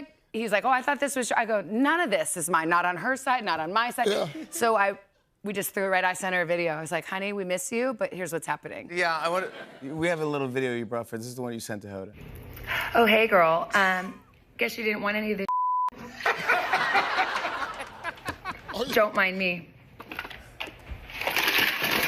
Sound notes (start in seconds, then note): 16.0 laughter